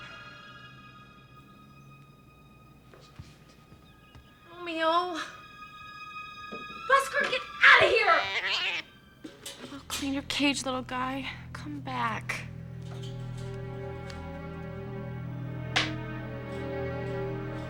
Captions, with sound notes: Romeo? Buster, get outta here! (cat hissing) I'll clean your cage, little guy. Come back. (soft suspenseful music)